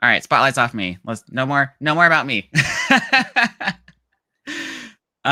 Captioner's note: laughing